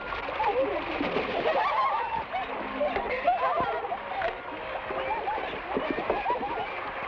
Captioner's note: women laugh; water splashes; women laugh